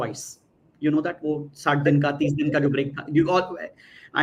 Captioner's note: non-english speech